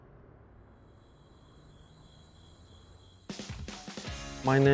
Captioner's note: crickets chirp; exciting music